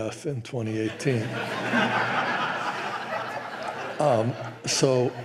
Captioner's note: laughter